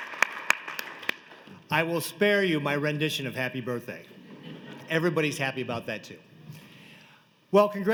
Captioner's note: applause